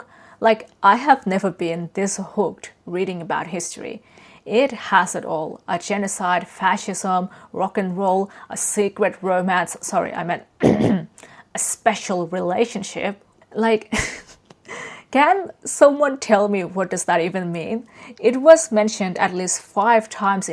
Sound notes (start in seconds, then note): 10.6 coughs; 13.9 laughs